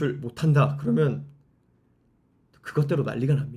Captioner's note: silence